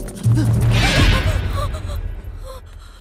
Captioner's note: Gasps